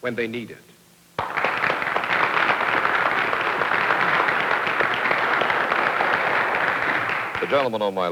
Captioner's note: applause